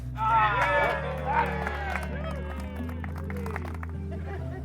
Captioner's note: cheers and applause